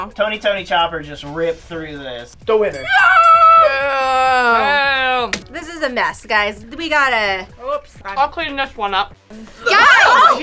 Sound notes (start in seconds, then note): 2.8 shouts; 9.6 everybody gasps